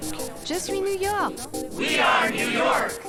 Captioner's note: French